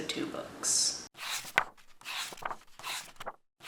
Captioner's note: pages turning